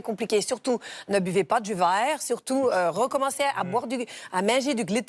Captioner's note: imitating a Quebec accent